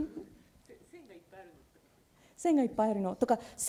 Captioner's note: speaking japanese